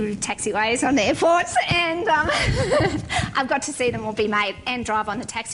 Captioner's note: laughing; laugh